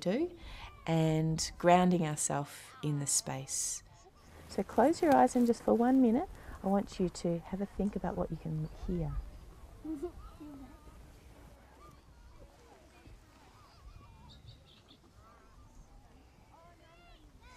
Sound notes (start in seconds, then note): 14.0 bird chirps